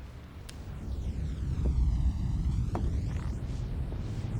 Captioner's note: wind rushing